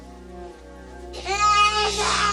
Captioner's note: crying